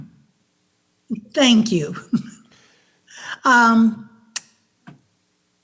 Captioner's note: laughs